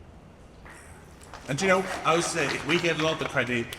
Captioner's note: audience applauds